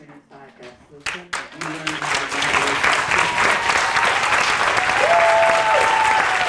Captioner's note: audience applauding; cheering and clapping